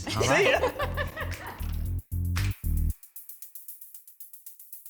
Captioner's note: woman laughing